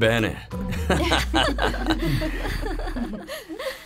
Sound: giggles

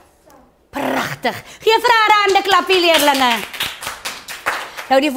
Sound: clapping

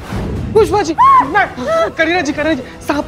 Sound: gasps

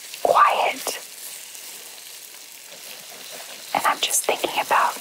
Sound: sizzling

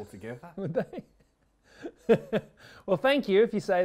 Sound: laughs

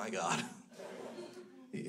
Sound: crowd laughs

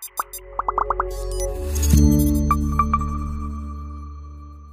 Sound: electronic tones; bubbles popping

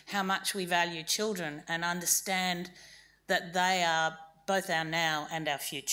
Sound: none

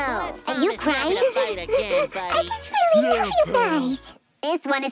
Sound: crying

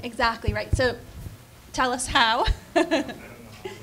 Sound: laughing

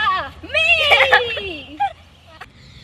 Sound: laughs

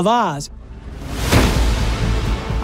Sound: gunshot

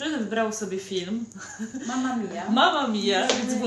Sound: giggle

